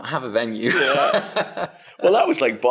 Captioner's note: laughs